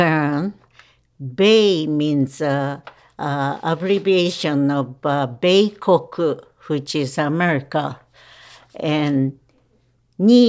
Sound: non-English language spoken

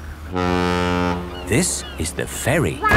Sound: laughing; ferry horn blows

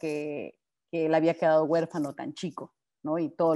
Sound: speaking Spanish

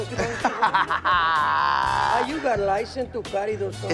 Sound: laughs

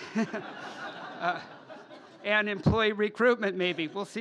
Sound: laughter

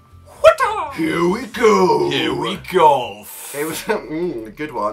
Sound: demon voice

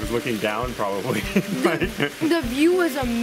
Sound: laughs

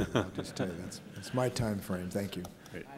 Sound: laughter

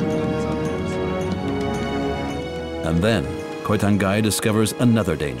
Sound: elephants sounding

